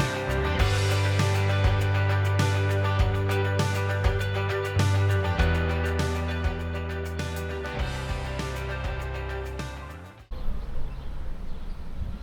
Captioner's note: upbeat music; birds chirping